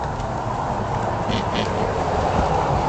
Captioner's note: possible oink